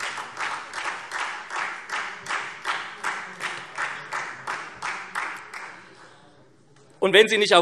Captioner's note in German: Beifall SPD